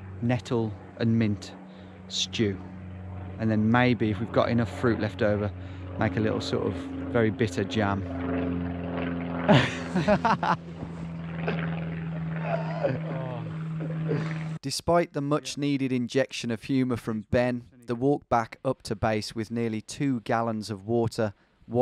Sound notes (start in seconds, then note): 8.2 laughing